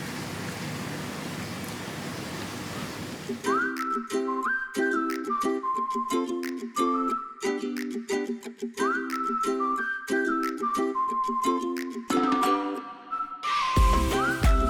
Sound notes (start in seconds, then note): none